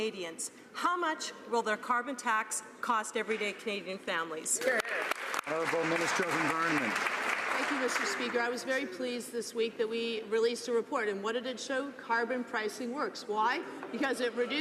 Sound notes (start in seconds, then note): 7.6 some Applause